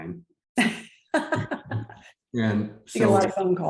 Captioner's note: laughs